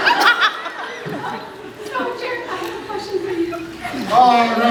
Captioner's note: laughs; croaks